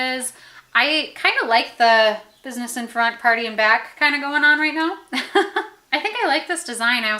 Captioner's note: laughs